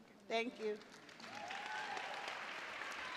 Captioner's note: cheers and applause